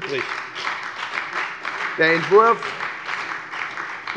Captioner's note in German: Beifall bei der FDP und bei Abgeordneten der SPD